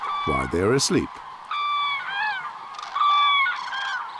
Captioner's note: cranes cawing